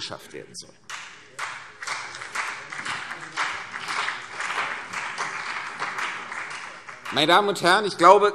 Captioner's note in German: Beifall CDU und BÜNDNIS 90/DIE GRÜNEN